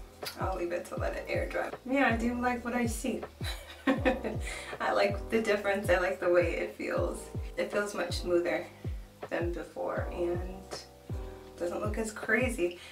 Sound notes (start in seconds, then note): 3.6 laughs